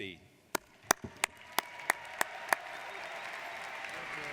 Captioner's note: applauding